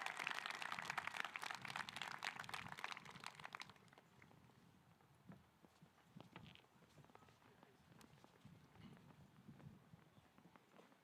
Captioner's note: applause